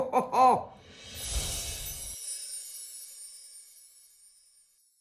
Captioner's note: bells chime